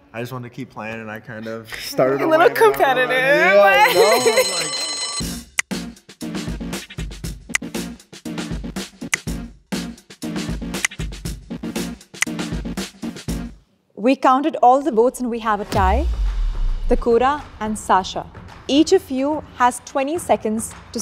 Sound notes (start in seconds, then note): 3.4 bell rings; 5.6 dramatic music